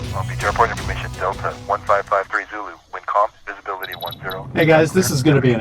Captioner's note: radio transmission